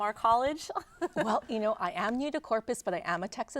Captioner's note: laughing